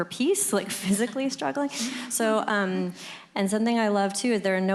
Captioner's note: laughter